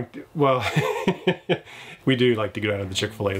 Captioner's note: laughs